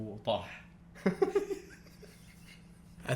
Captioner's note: laughs